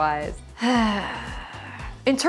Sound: sighs

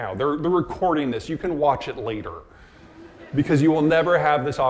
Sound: audience laughing

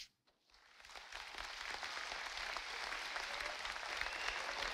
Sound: audience applauding

